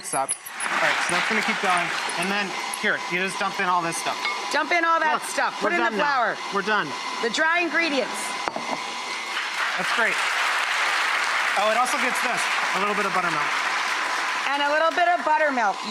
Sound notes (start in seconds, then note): 10.7 audience applause